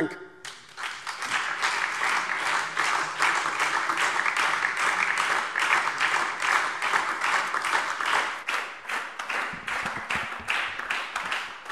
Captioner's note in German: Beifall SPD und DIE LINKE